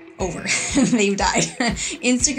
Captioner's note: laughs